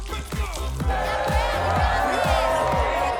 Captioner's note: cheering